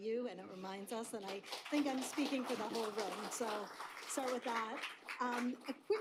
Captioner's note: applause